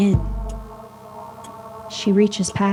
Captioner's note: heartbeat sounds begin